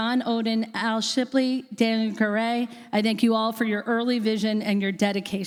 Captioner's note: none